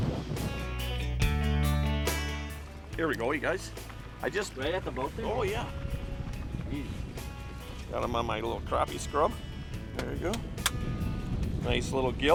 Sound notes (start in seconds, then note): none